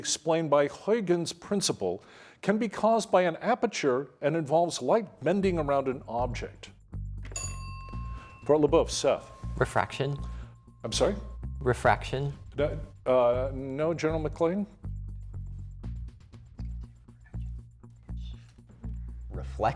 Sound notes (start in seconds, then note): 7.2 bell dings; 15.4 soft music